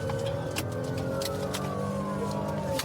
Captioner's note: siren blaring